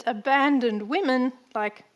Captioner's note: none